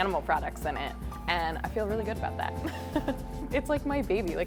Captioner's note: laughs